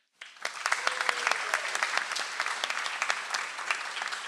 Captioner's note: audience applauds